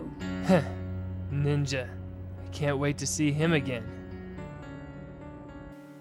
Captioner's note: chuckles